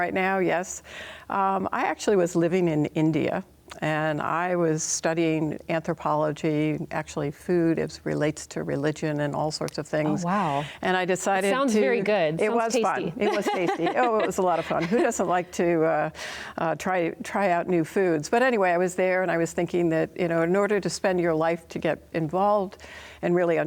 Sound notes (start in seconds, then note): 13.2 laughing